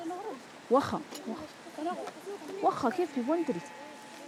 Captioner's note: Arabic spoken audio